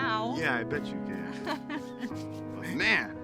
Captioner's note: Bree laughs